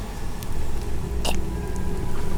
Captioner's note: cough